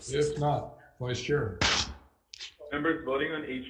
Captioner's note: striking gavel